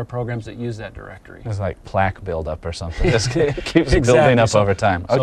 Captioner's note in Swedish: skratt